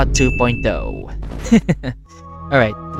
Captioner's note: Please don't hurt me YouTube *sobs